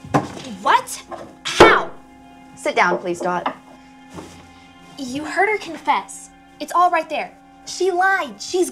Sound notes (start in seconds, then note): 1.5 wooden thump